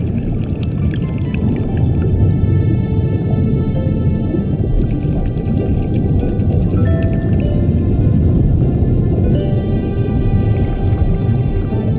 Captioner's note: soft dramatic music playing; water gurgling